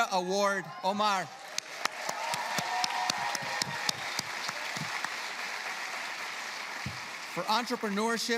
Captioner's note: applause